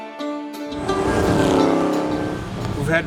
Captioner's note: car engine roars